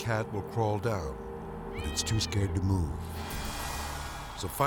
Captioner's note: cat mewing